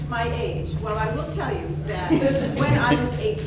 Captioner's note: audience laughing